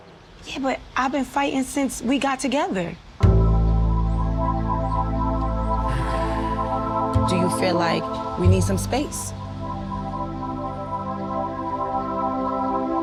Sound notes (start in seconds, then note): 3.5 dramatic music; 5.8 sighs; 9.9 dramatic music